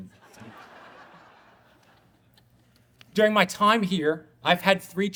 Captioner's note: audience laughing